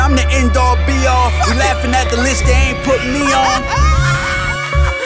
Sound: hahaha, ah

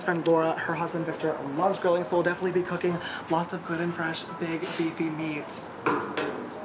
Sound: taps grill

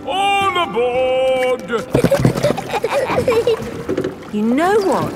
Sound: giggling

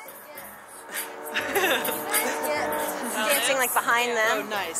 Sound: laugh

